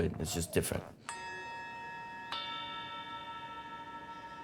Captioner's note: bells ringing